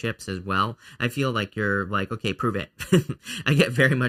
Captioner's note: laughs